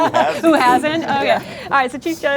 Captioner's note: laughter